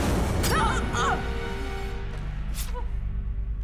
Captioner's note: Joan gasping; knife stabbing flesh; flesh squelching